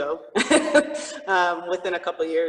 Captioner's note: chuckles